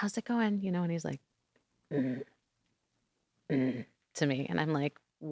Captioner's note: grumbles